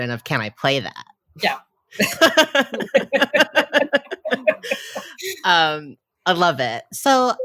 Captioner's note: both laugh